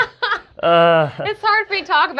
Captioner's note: laughs; groans